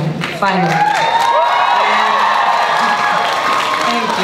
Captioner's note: audience cheering and applause